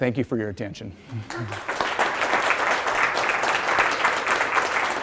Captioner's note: applause